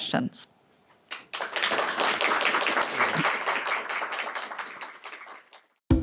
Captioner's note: audience applauding